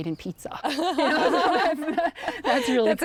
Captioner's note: both laughing